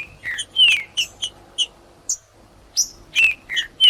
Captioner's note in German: trinca ferro cantando; trinca ferro cantando